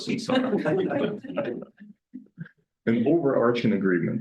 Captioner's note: audience laughing